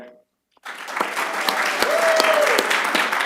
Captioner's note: applause